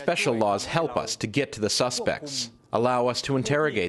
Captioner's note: through translator